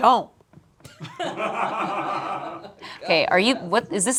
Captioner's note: group laughs